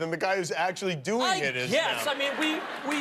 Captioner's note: laughter